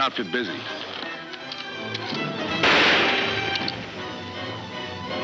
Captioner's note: gunshots banging